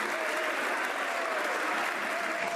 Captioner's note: some Applause